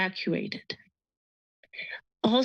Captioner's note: pause